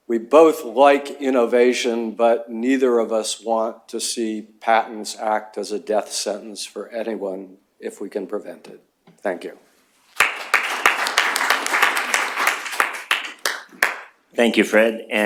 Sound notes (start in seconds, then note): 10.1 applause